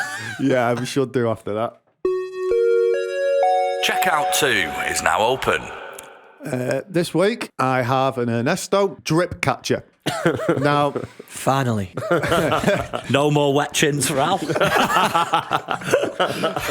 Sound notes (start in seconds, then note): 3.0 chime; 14.0 laughter